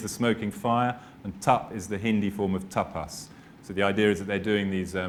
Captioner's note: speaking hindi